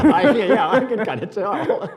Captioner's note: laughing